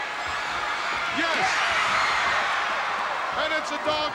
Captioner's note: audience cheering